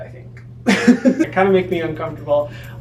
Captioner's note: laughs